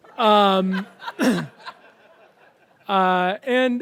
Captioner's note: audience laughs